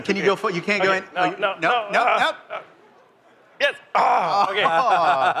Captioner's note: laughter